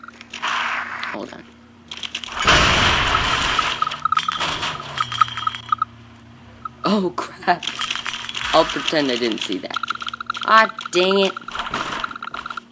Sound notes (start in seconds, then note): 2.3 explosion, objects crashing and clattering